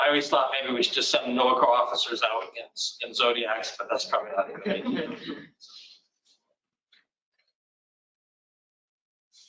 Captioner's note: laughter